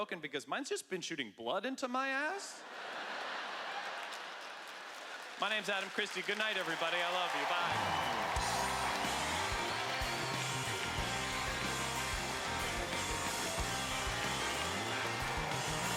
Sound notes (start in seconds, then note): 2.6 laughter; 8.2 rhythmic music